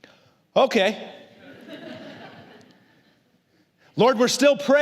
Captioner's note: congregación se ríe